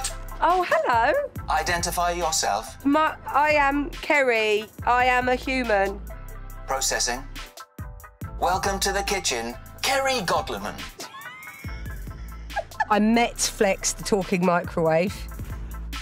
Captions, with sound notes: - Oh hello. - Identify yourself. I am Kerry. I am a human. Processing... Welcome to the kitchen... Kerry Godliman. [LAUGHING] I met Flex, The Talking Microwave.